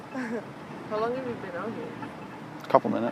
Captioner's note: laughing